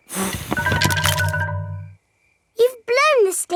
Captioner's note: blowing